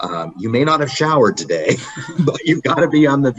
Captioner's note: laughing